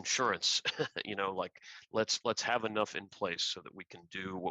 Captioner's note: laughter